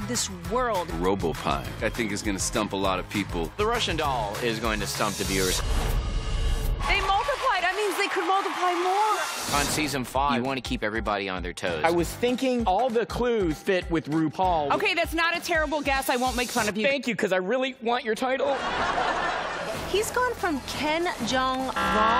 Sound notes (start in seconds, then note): 18.4 laughter